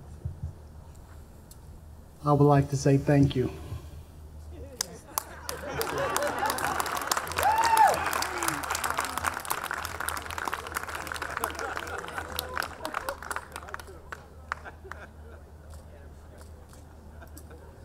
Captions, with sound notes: - I would like to say thank you. (audience laughing) (audience cheering)